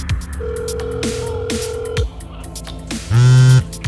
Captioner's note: phone dialing; phone vibrating